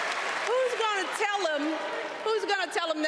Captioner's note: cheers and applause